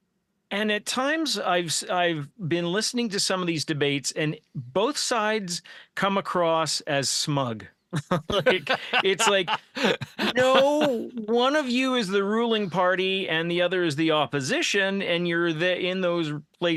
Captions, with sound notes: And at times I've been listening to some of these debates and both sides come across as smug. (laughing) It's like, no, one of you is the ruling party and the other is the opposition,